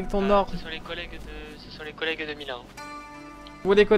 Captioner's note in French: radio